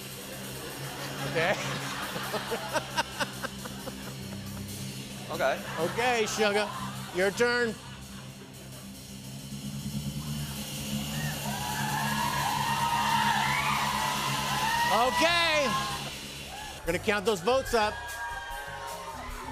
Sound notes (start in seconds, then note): 0.6 laughter; 11.1 cheering